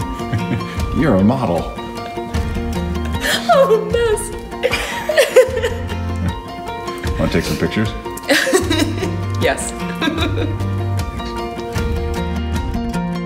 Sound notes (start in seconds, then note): 0.1 chuckling; 4.6 laughing; 8.2 laughing